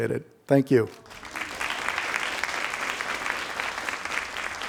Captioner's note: crowd applauding